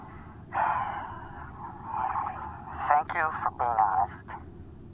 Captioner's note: Frank exhales